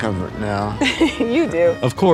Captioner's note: chuckles